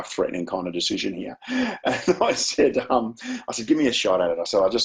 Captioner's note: chuckles